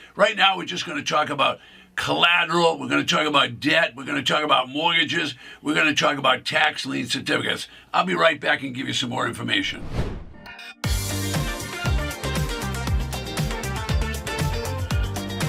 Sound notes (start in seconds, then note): 9.6 whooshing; 10.3 upbeat music